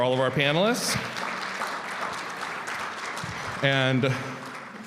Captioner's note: audience applauding